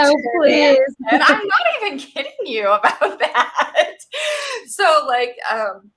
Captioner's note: laughs